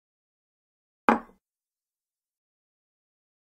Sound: sound of bowl

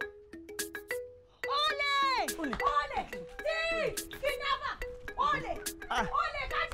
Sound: shouts

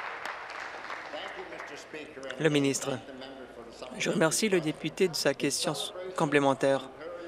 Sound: applause

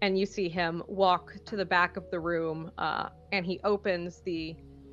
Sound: none

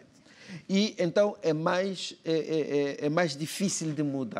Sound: speaking portuguese

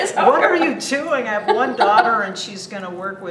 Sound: chuckles

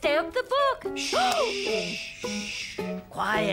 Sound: gasps

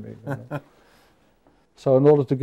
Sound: laughing

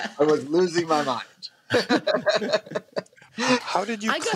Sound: laughter

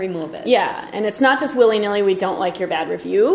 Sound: voiceover

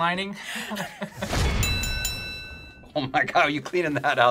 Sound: bell rings

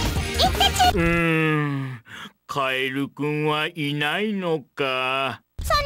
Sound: sad groan

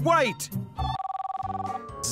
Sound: phone Ringing

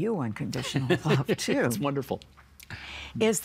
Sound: laughing

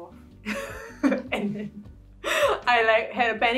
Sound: laughs

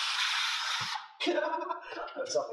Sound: laughing

